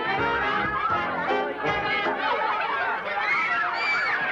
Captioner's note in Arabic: صراخ الأطفال